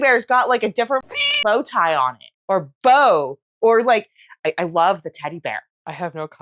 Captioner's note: meow